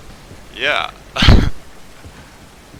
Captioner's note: laughs